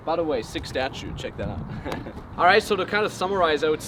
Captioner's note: laughs